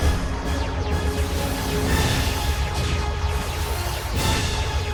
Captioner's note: lasers and explosions